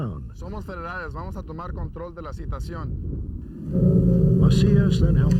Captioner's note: officer speaks Spanish